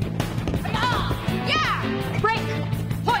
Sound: intense music; Diana shouting; Taylor shouting

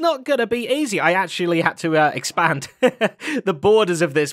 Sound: chuckles

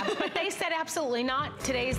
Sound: laughter

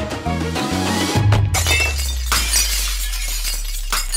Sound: mirror breaking sound

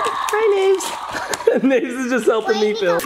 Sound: laughs

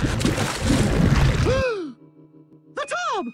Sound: gasps

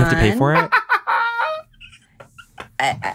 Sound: john laughs

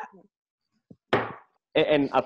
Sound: mug slams on desk

